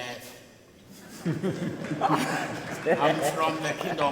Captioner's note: people laugh